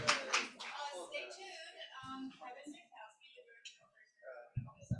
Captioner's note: indistinct crowd chatter